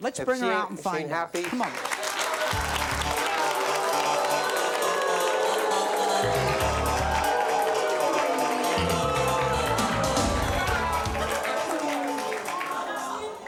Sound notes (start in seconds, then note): 1.9 audience applauding and jeering; 8.6 funky music